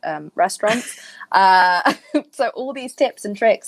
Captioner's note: laughing